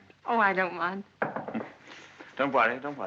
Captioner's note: knock at door